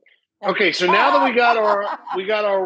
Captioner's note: Rachael laughs